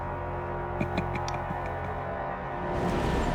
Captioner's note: chuckles